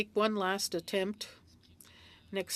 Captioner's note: speaking French